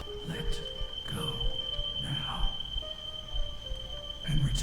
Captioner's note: disembodied Voice